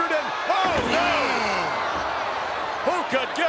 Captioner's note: audience cheers